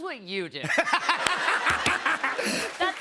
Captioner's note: laughter